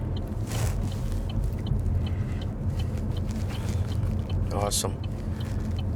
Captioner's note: indicator ticking